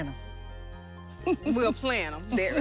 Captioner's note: chuckle